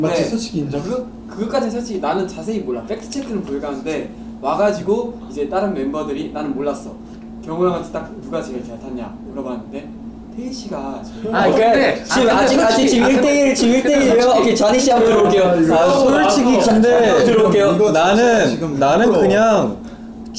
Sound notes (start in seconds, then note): 11.0 laughing